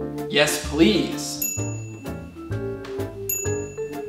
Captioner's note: ding